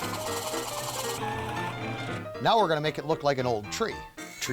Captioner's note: drilling